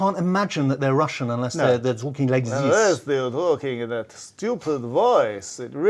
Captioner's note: does Russian accent